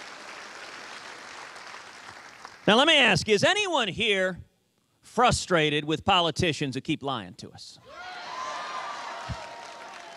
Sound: cheers and applause

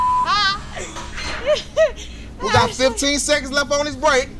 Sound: beep; laughing

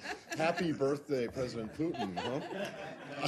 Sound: laughter

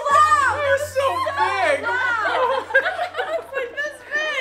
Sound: laughing

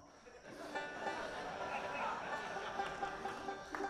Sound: audience laughs

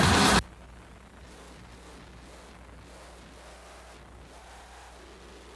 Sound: radio static plays

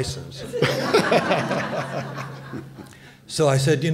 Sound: laughter

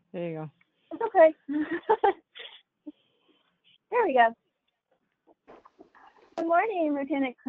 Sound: laugh

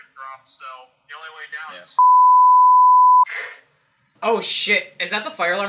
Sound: beep

